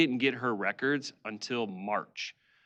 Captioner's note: none